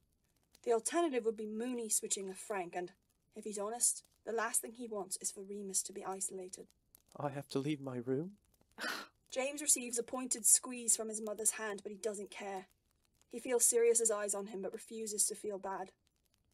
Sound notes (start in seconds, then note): 8.5 James scoffs